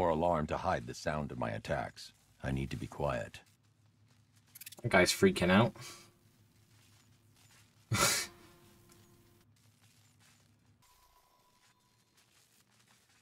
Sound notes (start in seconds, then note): 7.9 laughs